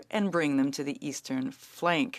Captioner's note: speaking French